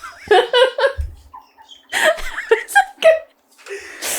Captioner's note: resumes laughter